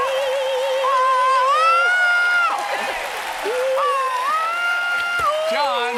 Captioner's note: cheers and applause